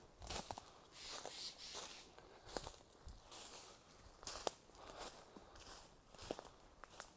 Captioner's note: footsteps